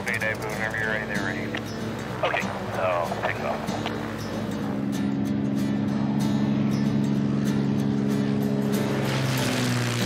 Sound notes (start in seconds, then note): 0.0 radio 'cli-clicks'; 3.1 radio 'cli-clicks'; 4.6 engine hums, vibrates